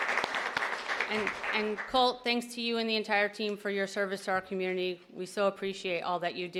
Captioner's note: applause